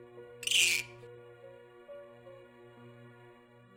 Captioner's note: bird, Piercing Shriek